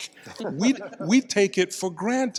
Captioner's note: panel laughs